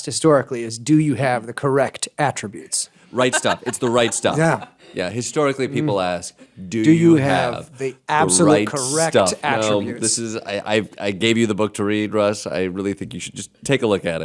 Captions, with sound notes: is do you have the correct attr? - Right stuff, it's the right s. (laughter) - Yeah. - Yeah, historically, people ask do you have the right stuff? - Do you have the absolute correct attributes? - No, this is, I gave you the book to read, Russ. I really think you should just take a look at it.